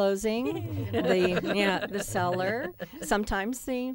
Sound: laughter

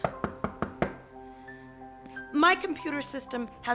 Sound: Don knocks on door

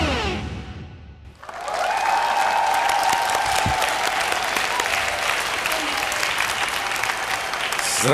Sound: applause

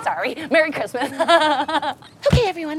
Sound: laughing

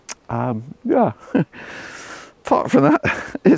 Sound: chuckles

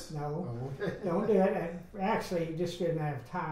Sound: laughs

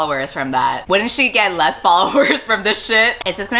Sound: laughs

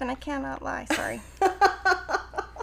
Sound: laughing

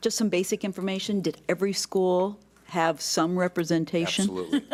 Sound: laughs

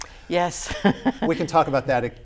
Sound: laughs

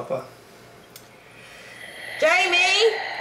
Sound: oxygen mask breathing sound

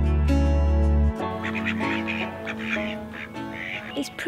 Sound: acoustic music; ducks quacking

